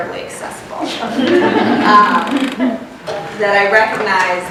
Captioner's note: laughter